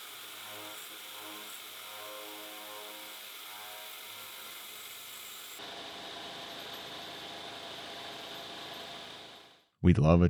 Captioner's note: machine whirring